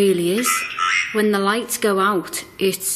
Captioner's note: OVILUS buzzing